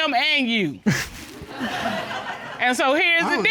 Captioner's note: all laughing